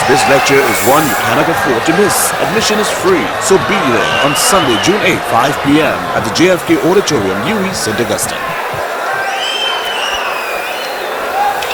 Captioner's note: wild applause and cheering for 22 seconds